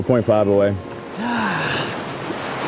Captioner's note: sighs